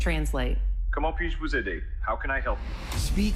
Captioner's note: non-english speech